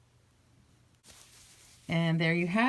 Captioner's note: rustling